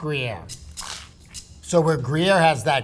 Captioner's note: percussion rattling; sandwich rustling